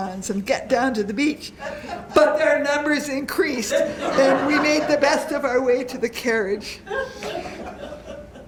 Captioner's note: laughter